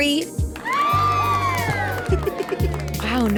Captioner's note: audience applauds